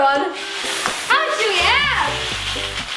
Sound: beads falling

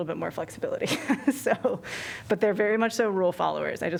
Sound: laughter

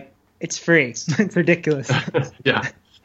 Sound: laughs

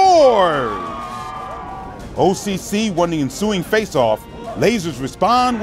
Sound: cheers

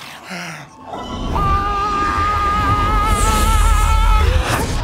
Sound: Key and Peele groaning

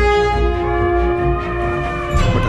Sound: elephants trumpeting

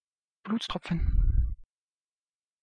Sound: fast Pronunciation

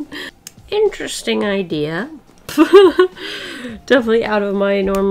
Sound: laughs

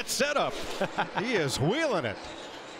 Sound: laughs

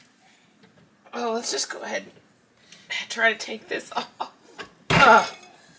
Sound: laughing as I struggle

